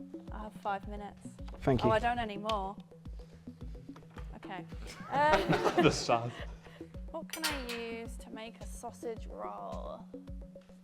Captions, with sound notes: I have five minutes. Thank you. Oh, I don't any more. Okay, um... (laughter) The sass! What can I use to make a sausage roll?